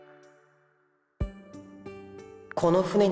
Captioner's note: silence